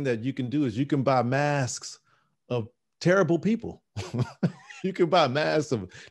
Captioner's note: laughing